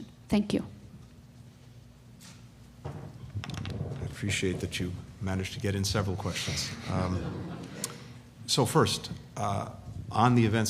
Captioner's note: laughter